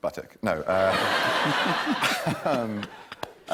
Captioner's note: laughter